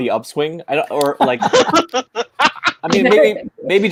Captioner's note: laughing